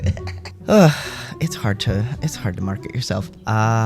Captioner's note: laugh; sigh